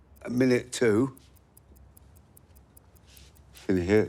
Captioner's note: clock ticking